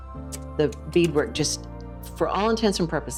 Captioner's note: slide projector clicks